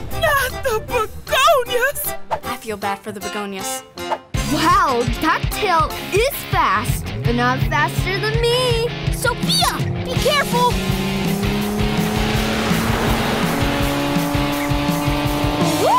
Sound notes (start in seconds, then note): 0.0 carnival music; 10.7 engine revving; 12.2 upbeat rock music